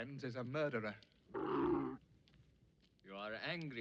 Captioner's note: camel groaning